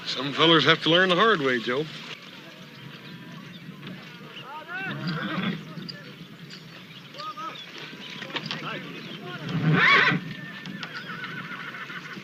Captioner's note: horse whinnying